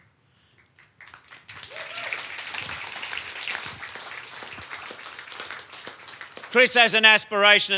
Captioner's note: applause